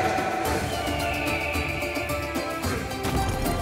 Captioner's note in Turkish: Kartal ötme sesi; Müzik - Hareketli